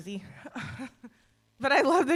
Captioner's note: chuckles